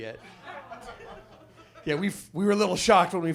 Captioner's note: audience laughs